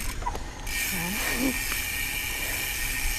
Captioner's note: laughs